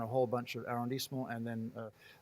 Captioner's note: speaking in foreign language